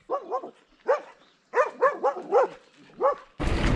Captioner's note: dogs Barking